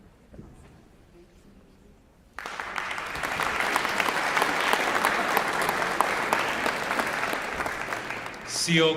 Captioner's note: applause